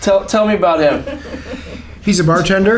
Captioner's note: laughter